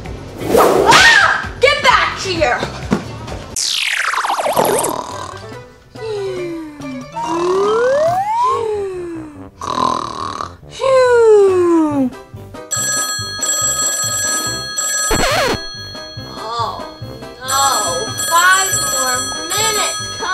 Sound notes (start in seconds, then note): 0.5 whip cracks; 4.9 snoring; 12.7 alarm rings